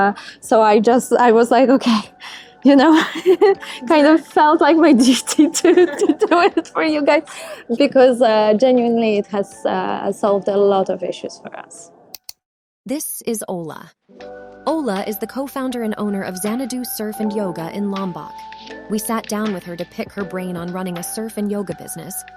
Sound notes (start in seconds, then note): 12.1 click